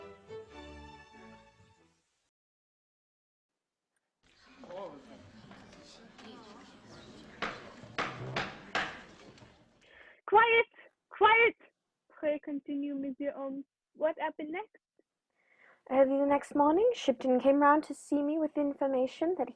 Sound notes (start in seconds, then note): 4.3 hubbub of voices; 8.0 rap of gavel